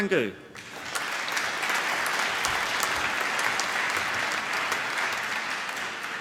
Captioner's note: applause